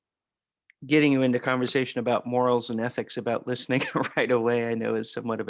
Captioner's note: laughter